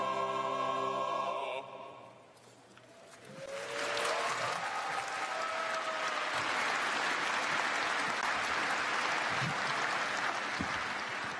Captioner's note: cheers and applause